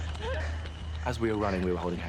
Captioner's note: heavy breathing